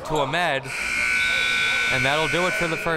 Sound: buzzer sounding

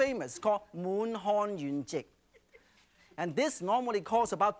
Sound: speaking in foreign language

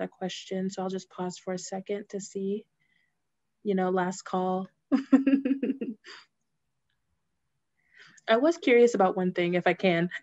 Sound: laughter

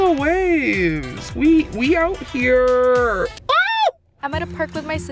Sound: exclaims

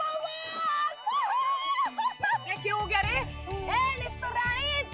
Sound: laughing

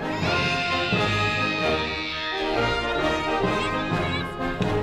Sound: girls scream

